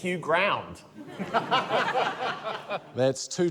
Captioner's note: laughter